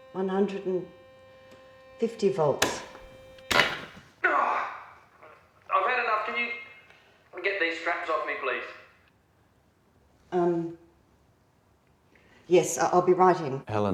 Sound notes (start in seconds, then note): 3.9 machine blaring; 4.2 grunting